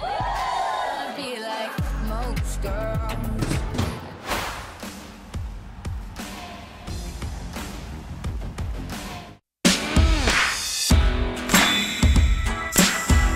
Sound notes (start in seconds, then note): 0.0 cheerleaders whoop; 4.2 whoosh; 4.3 upbeat rock music